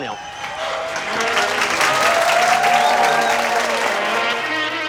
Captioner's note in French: aplaudissement